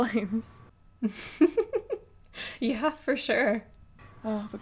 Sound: giggles

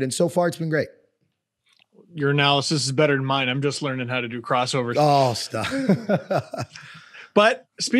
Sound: laugh

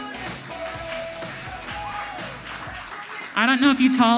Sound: audience applauds

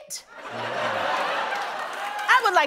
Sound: laughter

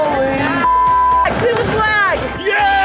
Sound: beeps

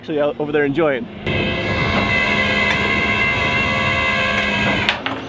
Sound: winch whirs

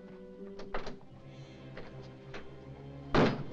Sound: ominous music; door rattles; bang

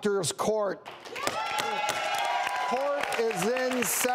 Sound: cheering

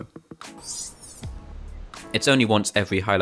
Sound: sound effect plays

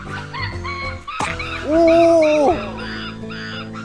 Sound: shivering!

